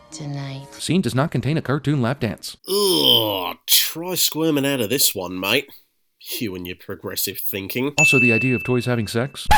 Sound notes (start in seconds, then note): 2.6 groans